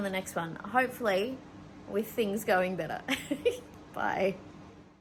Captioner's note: giggles